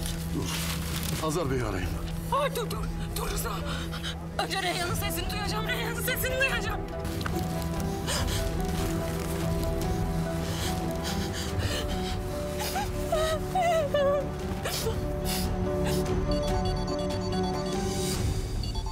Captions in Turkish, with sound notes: Dur, Hazar Bey'i arayayım. Dur dur, dur Rıza. Önce Reyyan'ın sesini duyacağım. Reyyan'ın sesini duyacağım. (Ağlıyor) [Telefon çalıyor]